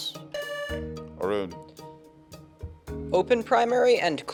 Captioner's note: buzzer sounding